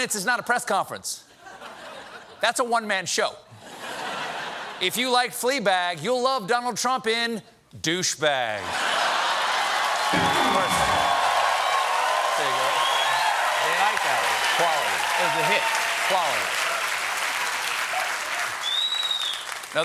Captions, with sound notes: ( LAUGHTER ) 71 MINUTES IS NOT A PRESS CONFERENCE. THAT'S A ONE MAN SHOW. ( LAUGHTER ) IF YOU LIKED "FLEABAG," YOU'LL LOVE DONALD TRUMP IN "DOUCHEBAG." ( CHEERS AND APPLAUSE ) ( PIANO RIFF )